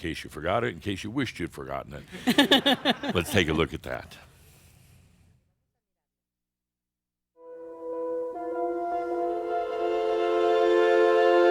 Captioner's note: more chuckles